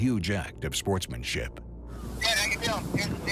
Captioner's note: on phone